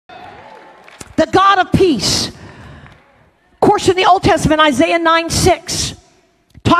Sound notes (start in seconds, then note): 0.1 congregation cheers